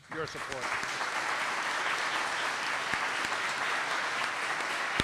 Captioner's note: audience clapping